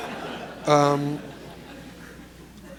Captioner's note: laughter